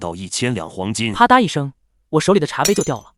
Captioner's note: clatter